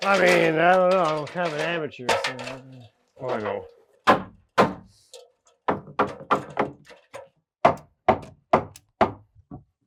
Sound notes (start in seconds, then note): 5.7 hammer knocking